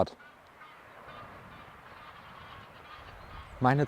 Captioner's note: birdsong, chattering